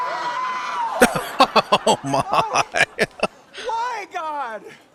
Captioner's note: laughing